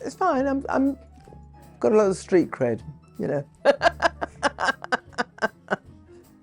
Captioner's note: laughs